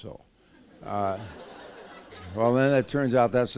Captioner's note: laughter